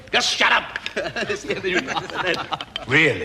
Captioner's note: laughter